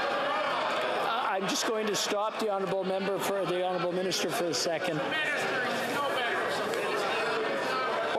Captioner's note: yelling